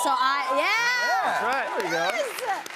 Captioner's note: cheers and applause